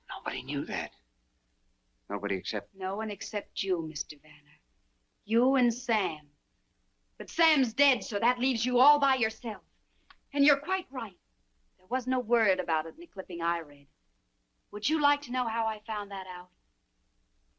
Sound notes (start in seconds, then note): none